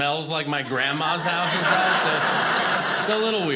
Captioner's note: audience laughing